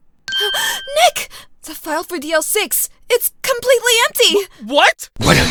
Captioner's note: gasp!